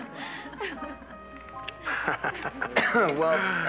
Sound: laughs; girls laughing

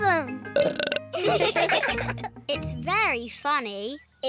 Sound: burps; all laugh

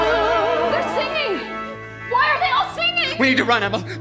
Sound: speaking

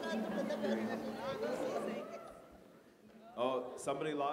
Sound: background chatter

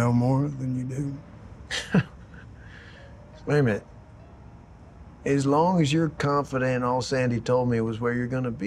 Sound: laughs

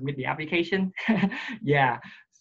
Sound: laughs

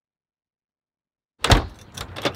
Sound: door locks; door shuts

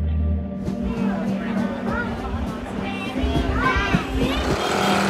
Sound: indistinct chatter

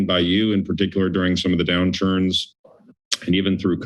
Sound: clicks tongue

